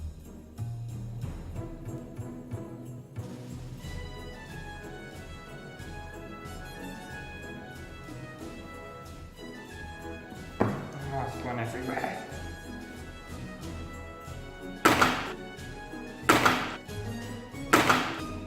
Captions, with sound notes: It's gone everywhere! *CLUNK* *CLUNK* *CLUNK*